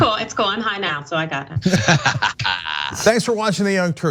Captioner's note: laugh